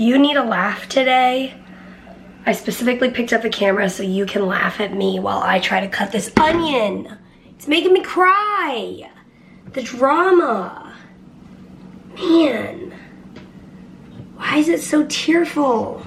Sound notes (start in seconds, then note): none